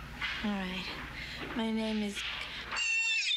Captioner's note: squealing